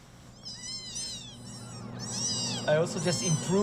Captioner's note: kittens mewing